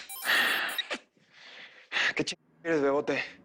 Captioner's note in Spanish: Suena el celular